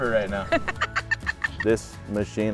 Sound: laughing

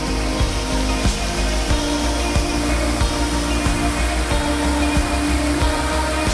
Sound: gentle light music continues; fountain spurts

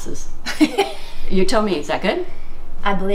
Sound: laughing

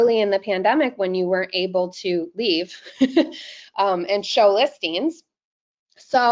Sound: chuckles

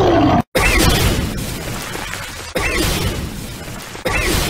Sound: smashed Masonry Shattering

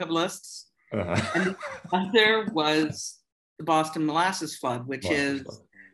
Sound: laughter

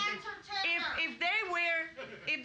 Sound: woman shouting

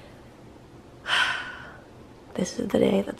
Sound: sighs

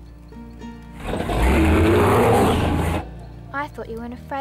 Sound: machinery roaring

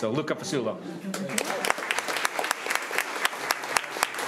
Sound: crowd clapping

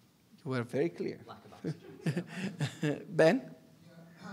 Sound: chuckling

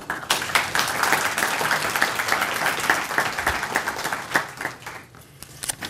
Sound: applause

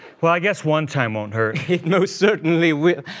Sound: sigh

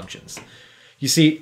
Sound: door opening

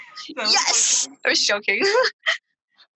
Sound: laughing

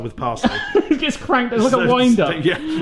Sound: laughs

